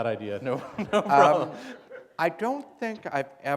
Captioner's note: laughter